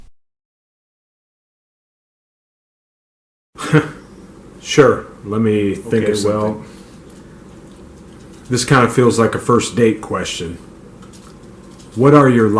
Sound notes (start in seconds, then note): 0.1 silence; 3.6 chuckle